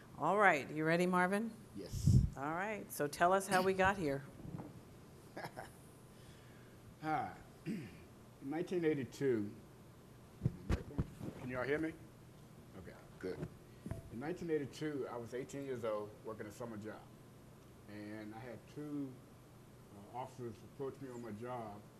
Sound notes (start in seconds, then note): 5.3 chuckles